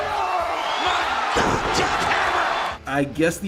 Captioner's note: crowd clamoring